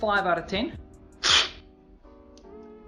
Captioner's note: slurping